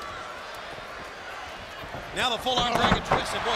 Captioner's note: crowd chatter